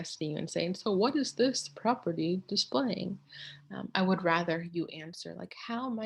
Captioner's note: using random professor tone of voice